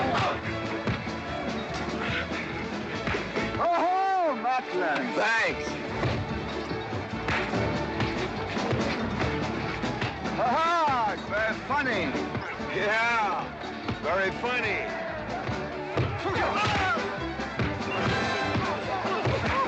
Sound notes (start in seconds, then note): 7.2 western fight music; 7.2 sounds of scuffling & fighting; 15.0 sounds of scuffling & fighting; 15.0 western fight music